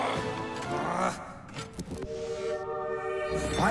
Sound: frustrated groan; beeping

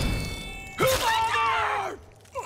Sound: grunting; groaning

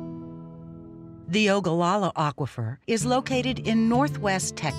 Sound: voiceover

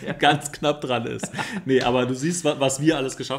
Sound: laughs

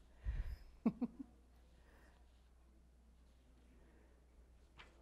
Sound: laughs

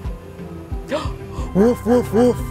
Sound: gasping

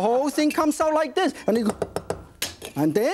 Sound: quick chops

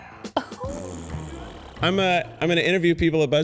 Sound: fart noise

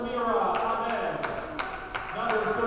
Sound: players applauding

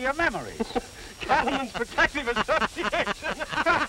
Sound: laughing

